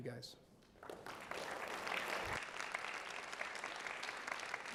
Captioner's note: audience applauds